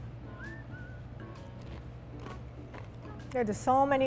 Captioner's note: crunching